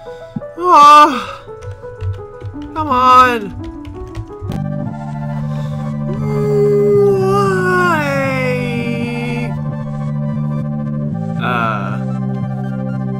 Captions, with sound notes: *distressed moan* C'mon! *inhale* Wwwwwwwwwwhyyyyyyyyyyyy? Uhh...